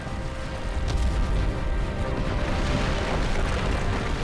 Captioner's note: lava exploding